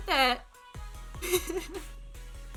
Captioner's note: relieved, joyous giggling